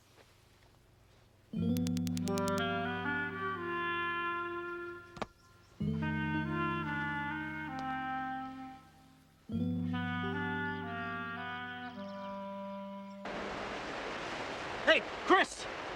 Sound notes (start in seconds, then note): 1.6 mysterious music; 7.1 birds chirping